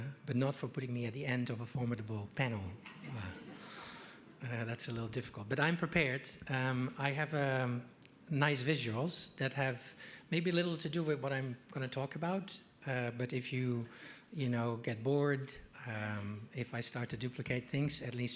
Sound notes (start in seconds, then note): 2.9 audience laughing